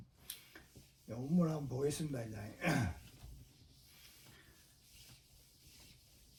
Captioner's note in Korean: 목을 가다듬음